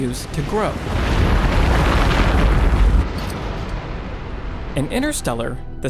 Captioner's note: avalanche rumbling